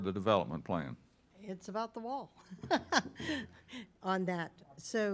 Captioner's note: laughs